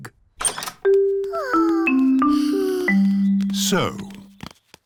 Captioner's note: peppa and george sigh